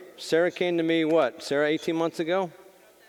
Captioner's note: none